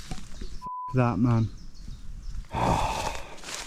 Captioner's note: beeps